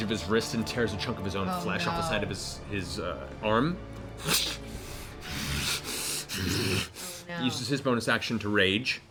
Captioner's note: tearing sound, heavy breathing